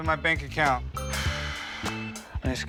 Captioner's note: exhales